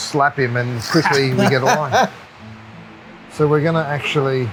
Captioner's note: laughing